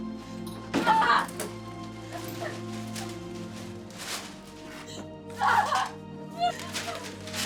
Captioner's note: screaming